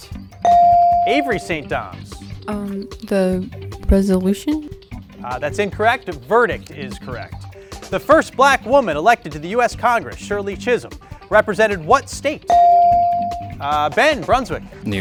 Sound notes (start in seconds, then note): 12.5 ding chimes